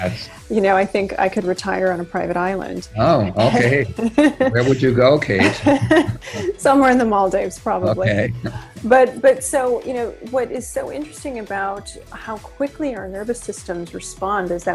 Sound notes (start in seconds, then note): 2.9 laughs